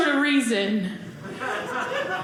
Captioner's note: audience laughing